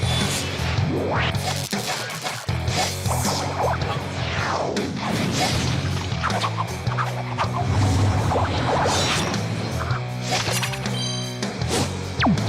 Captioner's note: continuous Strikes